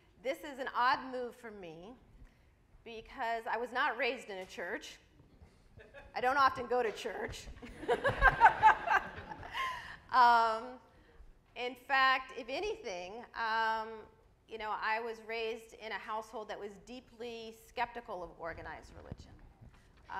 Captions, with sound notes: This is an odd move for me because I was not raised in a church. I don't often go to church. (laughs) (audience laughs) In fact, if anything, I was raised in a household that was deeply skeptical of organized religion.